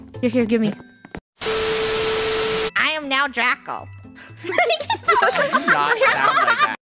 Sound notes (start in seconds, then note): 4.4 giggling